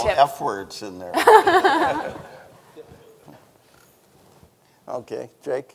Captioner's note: everyone laughing